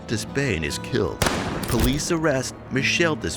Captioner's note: gun bang